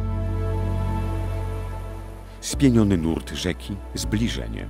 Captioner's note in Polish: szum rzeki